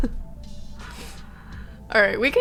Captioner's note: laughing